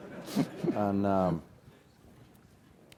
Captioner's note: laugh